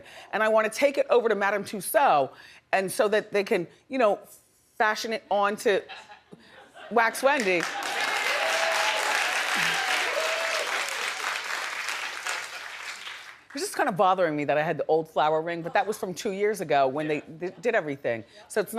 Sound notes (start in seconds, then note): 7.3 audience cheering and clapping